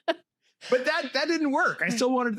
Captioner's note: laughter